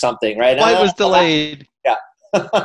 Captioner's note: laughing